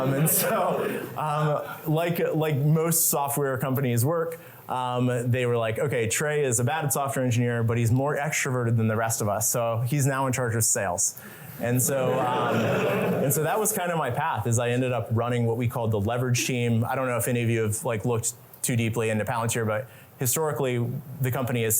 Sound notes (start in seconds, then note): 11.9 laughter